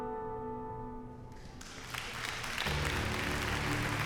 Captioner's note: cheering, applause